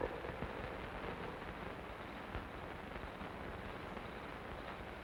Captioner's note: insects chirping